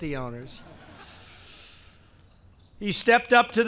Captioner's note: laughter